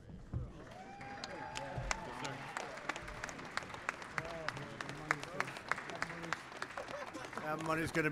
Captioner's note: applause